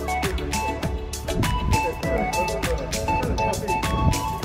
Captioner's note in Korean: 사람들의 속삭임